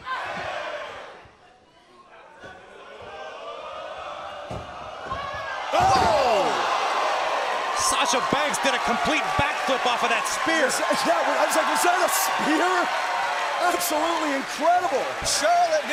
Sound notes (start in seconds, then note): 3.5 crowd cheering